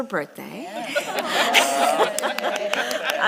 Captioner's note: laughter and applause